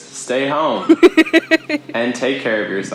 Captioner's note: laughs